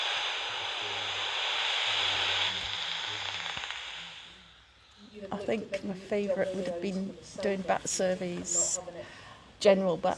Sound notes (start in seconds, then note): 4.9 back ground chatter of others on bat walk